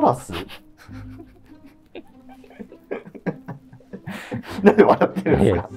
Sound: laughing

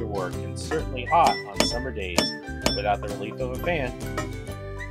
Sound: hammering metal

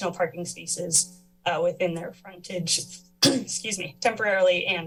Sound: clears throat

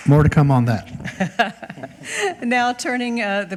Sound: chair laughs

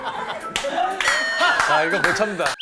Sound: they burst out laughing

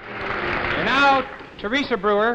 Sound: crowd applauding

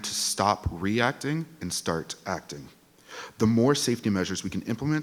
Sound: none

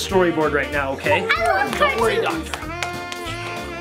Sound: clapping

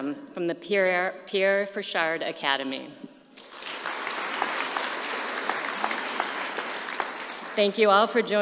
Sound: applause

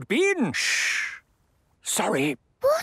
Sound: whispering; quietly

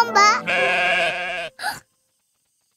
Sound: sheep sound

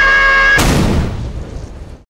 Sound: scream; explosion sound

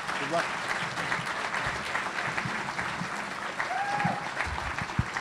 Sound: audience applauding

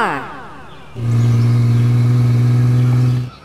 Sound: engine sound

